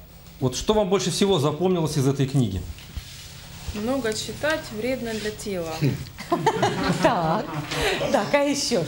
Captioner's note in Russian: смех